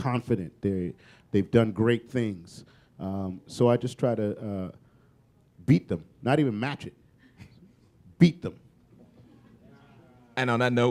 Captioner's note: chuckle